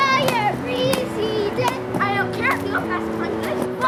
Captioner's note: chatter as they play